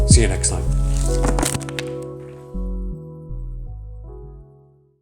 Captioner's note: cards landing